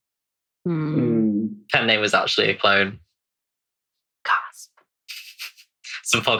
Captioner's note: laughs